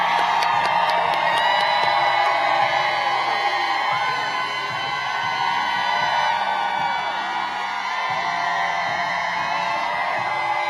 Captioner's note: applause